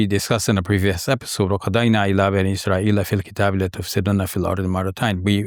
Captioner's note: speaks in Arabic